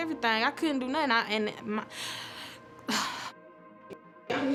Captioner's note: sighs